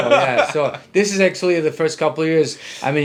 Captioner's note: laughing